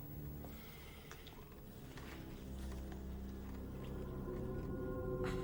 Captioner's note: lips smacking